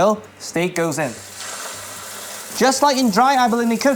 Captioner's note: sizzling sound